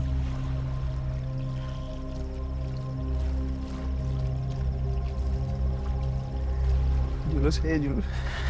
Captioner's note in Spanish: Murmullo del agua